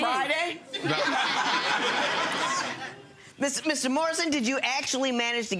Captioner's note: audience laughing